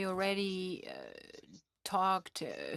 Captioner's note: speaking French